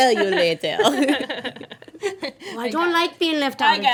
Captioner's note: laughing